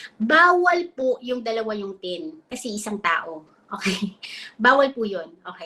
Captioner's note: speaks in Filipino